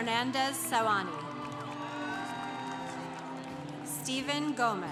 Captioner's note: congregation applauding